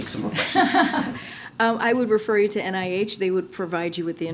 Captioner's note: laughs